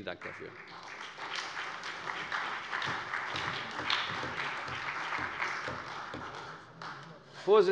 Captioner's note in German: Allgemeiner Beifall